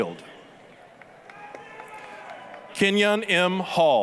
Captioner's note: applause, cheering